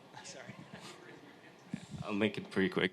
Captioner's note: speaking faintly